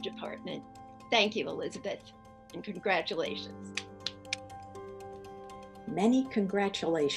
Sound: clapping

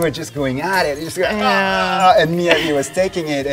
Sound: imitates screaming

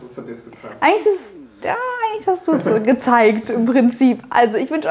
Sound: laughing

